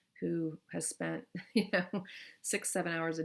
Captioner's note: chuckles